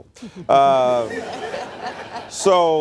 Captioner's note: laughter